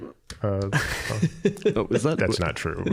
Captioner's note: laughing